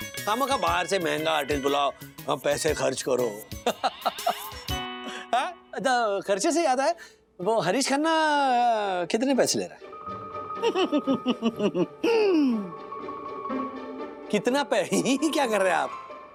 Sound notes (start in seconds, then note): 3.6 chuckles; 10.6 laughs